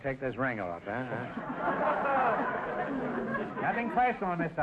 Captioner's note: audience laughter